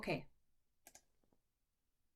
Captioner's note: click